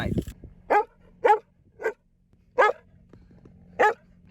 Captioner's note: dog barking